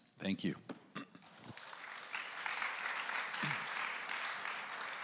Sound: audience applauds

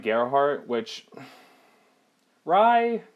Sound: sighing

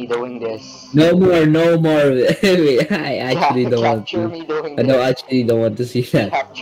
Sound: giggles

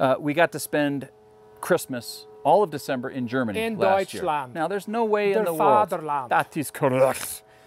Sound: speaking in German language

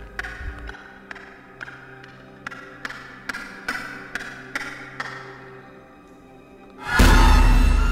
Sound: scary monster Voices echoing

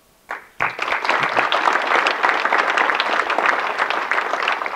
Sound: audience clapping

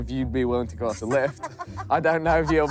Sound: woman laughs

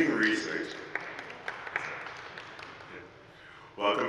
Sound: group applauding

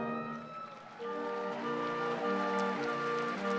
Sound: triumph music; crowd cheering

